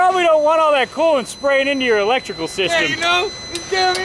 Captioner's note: engine running